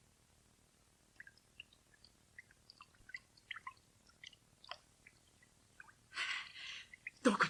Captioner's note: SFX: water dripping